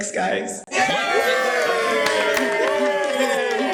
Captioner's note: cheering